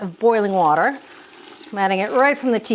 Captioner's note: water sloshing